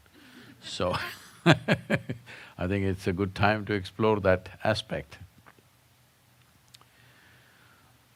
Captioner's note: laughs